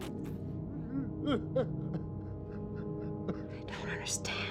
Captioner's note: sobbing